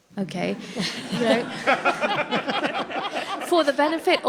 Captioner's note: audience laughs